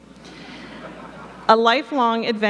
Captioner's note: audience laughing